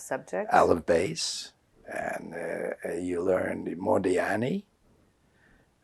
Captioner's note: non-english